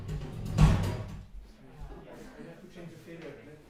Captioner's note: drumming sound playing; laughing